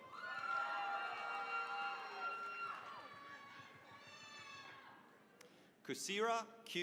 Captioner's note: cheering, applause